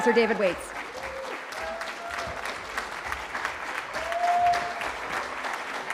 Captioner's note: cheering